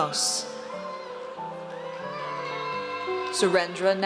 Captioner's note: audience cheers